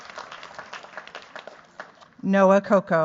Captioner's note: cheers, applause